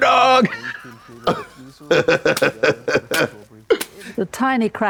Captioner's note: blonde Women cackle and clap